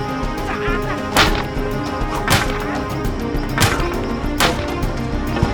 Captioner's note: tense suspenseful music; poles clacking and whooshing